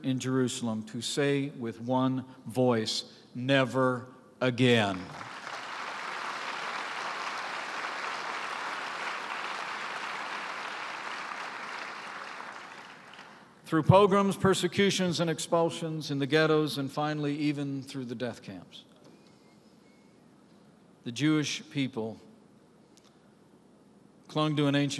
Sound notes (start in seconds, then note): 8.8 applause